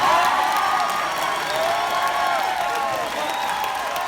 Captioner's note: crowd cheering